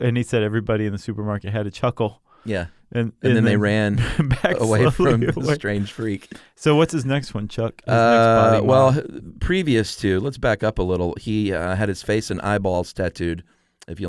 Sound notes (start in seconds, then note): 3.8 laughs